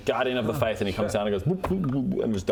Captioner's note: blub blub